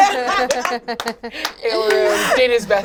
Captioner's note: all laugh